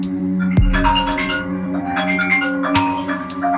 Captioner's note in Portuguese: Celular toca